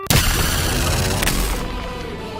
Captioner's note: beeping